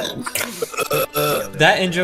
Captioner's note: burp